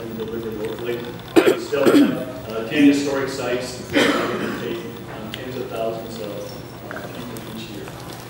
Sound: ? coughing

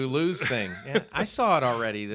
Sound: laughing

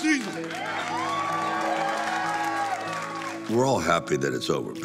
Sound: crew cheering

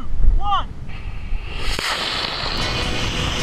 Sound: rocket blasting

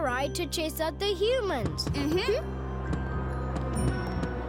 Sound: thudding

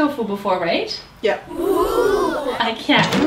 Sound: audience oohs

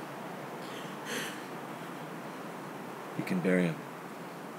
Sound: weeping

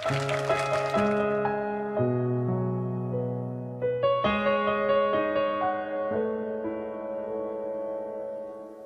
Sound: applause

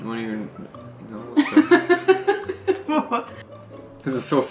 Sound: laughs

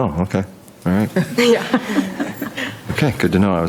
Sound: group laughing

